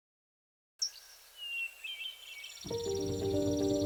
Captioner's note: birds chirping